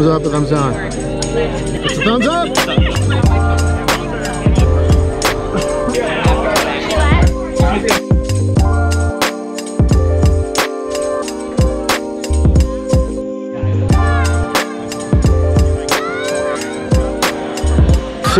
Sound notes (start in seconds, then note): 3.2 people chattering; 3.2 tranquil music